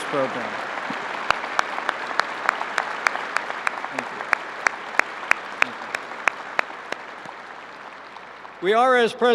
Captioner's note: applause